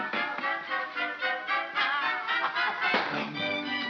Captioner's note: house clatters over; pig yelps